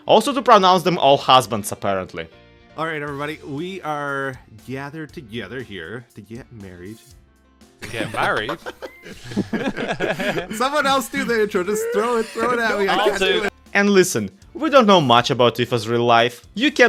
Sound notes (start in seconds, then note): 7.8 confused laughter